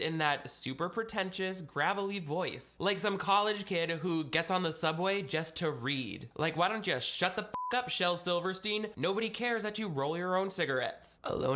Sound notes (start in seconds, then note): 7.5 beep